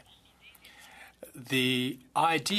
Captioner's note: speaking French